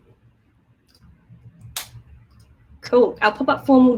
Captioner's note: mouse clicking